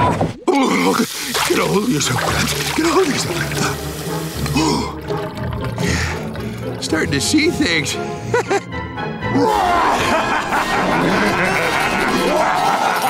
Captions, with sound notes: [groaning] [heavy breathing] Starting to see things, heh heh. [evil laughing]